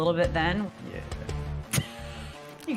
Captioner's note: laughs